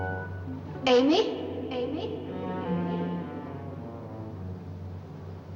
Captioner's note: echoes